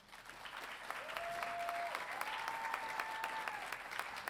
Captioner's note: audience cheering